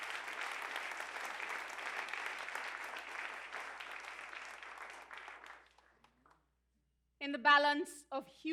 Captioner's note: applause